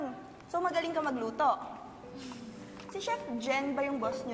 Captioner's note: sheepish sigh